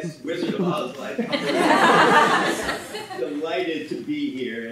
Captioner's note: audience laughing